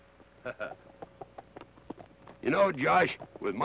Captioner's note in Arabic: كارني يضحك